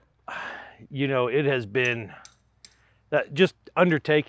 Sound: sighs

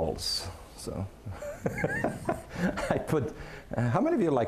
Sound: laughing

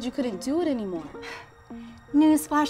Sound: Allie sighs

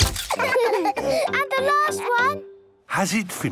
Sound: all laughing

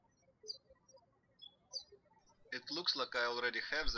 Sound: birds chirping

